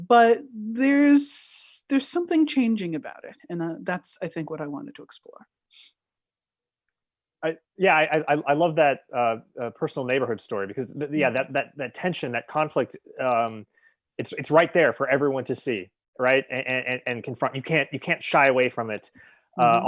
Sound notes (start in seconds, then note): none